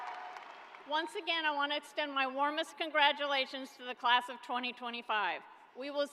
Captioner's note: cheering